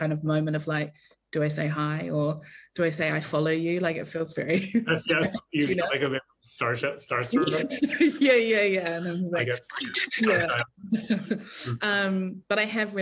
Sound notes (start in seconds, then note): 5.0 both chuckle; 9.7 chuckles